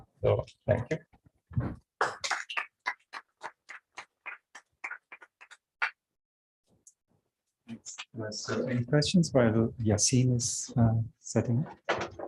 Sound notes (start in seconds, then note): 2.0 applause